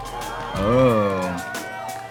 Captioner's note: all cheering